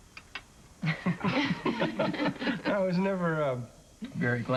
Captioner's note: laughter